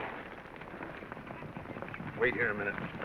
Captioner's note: horses galloping